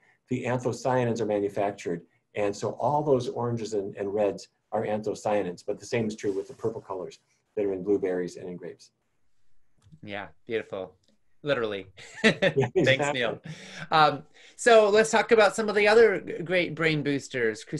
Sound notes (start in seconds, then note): 12.0 laughs